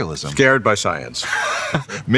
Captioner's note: laughs